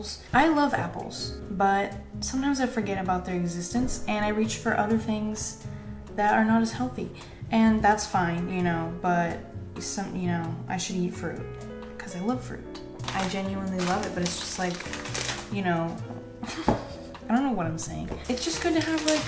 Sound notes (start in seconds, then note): 16.4 laughs